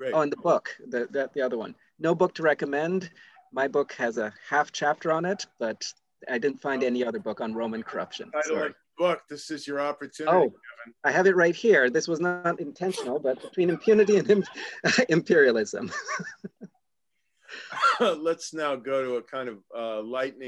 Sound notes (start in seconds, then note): 12.8 laugh